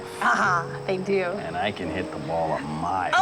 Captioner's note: laughs